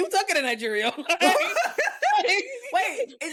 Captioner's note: laughing